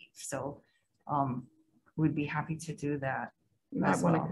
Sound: none

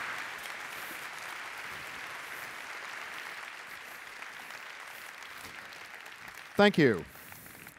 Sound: applause

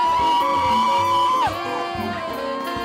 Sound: applause

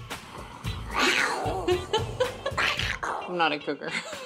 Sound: growling

